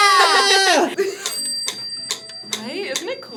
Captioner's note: metronome clicks